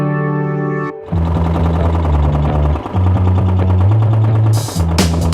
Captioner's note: machine roaring